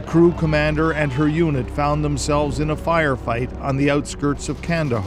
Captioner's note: gunshots